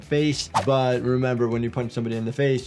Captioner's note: audio whooshes